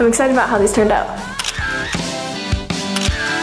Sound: camera clicking

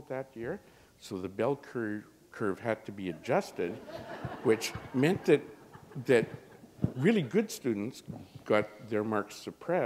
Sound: laughter

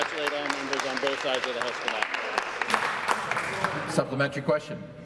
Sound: some Applause

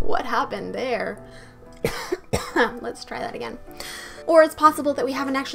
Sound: coughs and dies

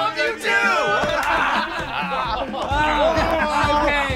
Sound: laughing

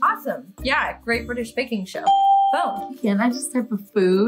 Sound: bell rings

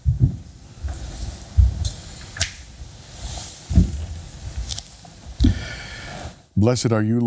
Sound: shuffling

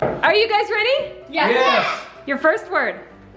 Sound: all shouting in agreement

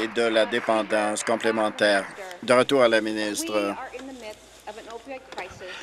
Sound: applause

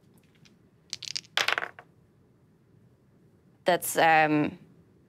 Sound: dice clattering

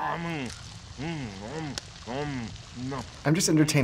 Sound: Calcifer chews loudly

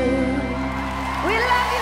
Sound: audience cheers; audience applauds

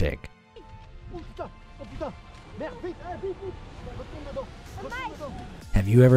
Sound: speaking in foreign language

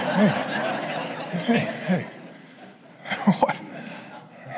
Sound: congregation laughing

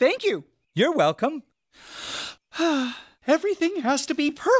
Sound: sigh

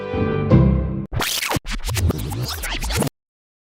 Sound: sound of rewinding the film

